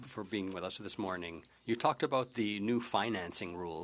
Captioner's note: speaking French